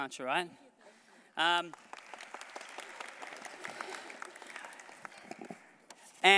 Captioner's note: applause